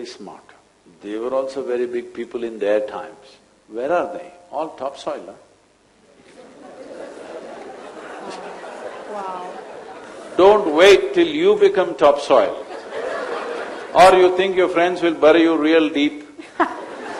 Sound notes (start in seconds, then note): 6.2 laughter; 12.6 laughter; 16.3 laughter